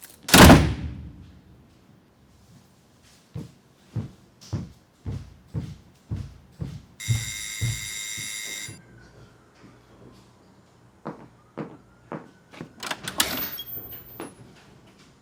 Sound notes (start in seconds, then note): 0.2 door slamming; 7.0 door bell buzzing; 12.5 footsteps approaching; 12.6 door creaking